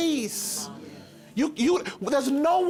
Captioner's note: crowd murmuring